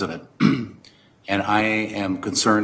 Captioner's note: clears throat